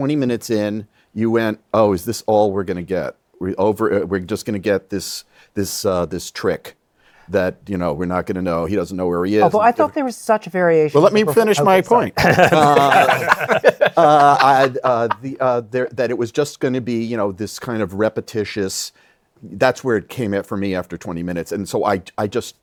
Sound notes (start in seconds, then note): 12.1 laughter